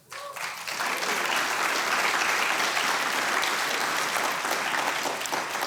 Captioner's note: audience cheering